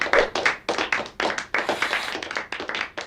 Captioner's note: applause; swooshing